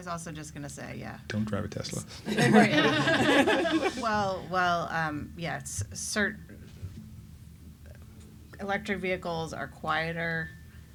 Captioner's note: laughs